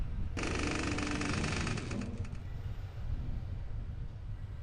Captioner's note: door creaks